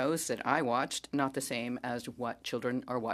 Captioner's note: speaking French